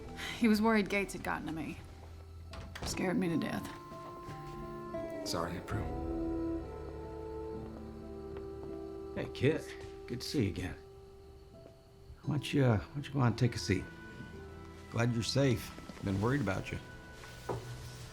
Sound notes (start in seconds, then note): 2.5 door closes